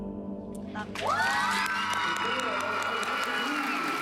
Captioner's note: cheering and applause